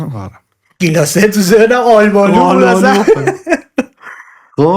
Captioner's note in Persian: خنده